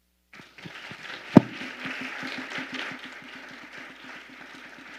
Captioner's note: audience applauding